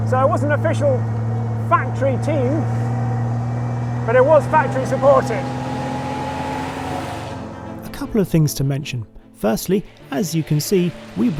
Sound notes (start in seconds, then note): 6.6 bright music; 6.6 car engine roaring